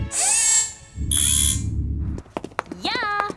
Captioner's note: buzzing